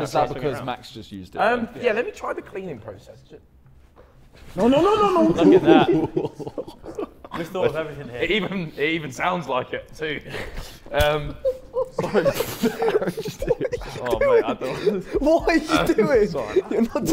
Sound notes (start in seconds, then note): 4.9 Sidemen laughing; 12.2 Sidemen laughing